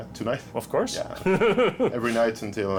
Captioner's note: chuckles